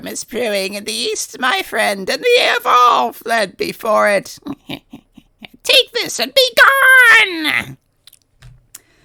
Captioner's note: low chuckle